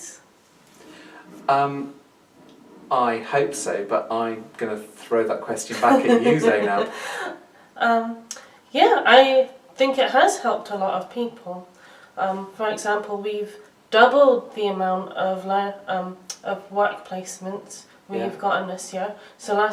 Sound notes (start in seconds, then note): 5.8 laughs